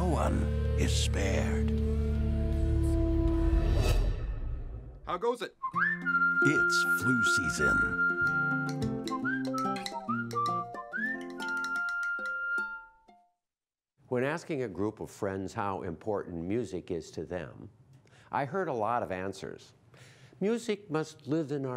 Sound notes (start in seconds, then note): 5.6 whistling